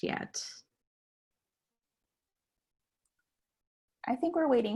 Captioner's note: silence